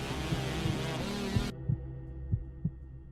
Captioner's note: radio turns on